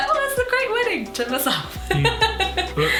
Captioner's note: laughs